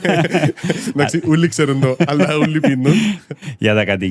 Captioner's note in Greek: γέλιο